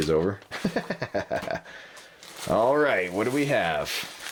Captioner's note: laughs